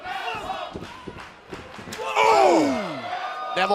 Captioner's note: crowd cheering